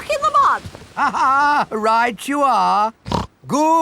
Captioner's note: laughs; snorts